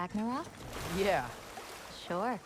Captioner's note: laughing